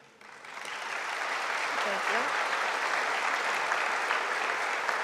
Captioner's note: audience applauding